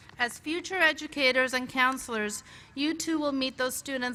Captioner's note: none